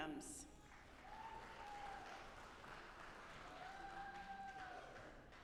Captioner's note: audience applauding